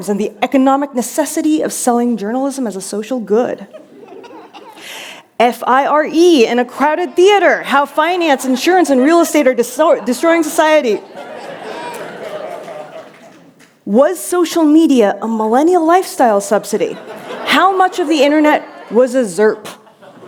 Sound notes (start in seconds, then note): 9.8 laughter